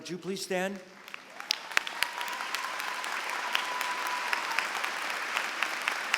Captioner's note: applause